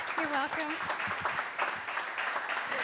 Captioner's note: applause